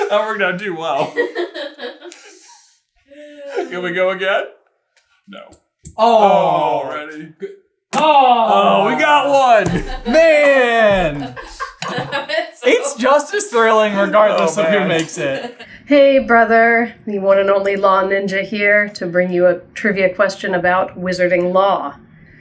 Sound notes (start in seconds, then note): 0.9 laughter; 11.5 laughing